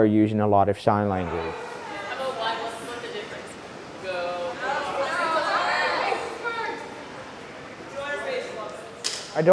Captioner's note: laughter